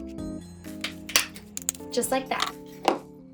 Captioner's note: hole puncher clicking